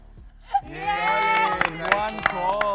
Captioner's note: all cheer